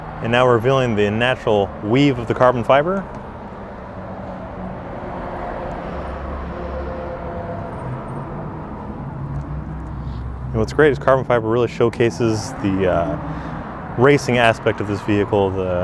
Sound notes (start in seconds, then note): 4.3 traffic humming by in the background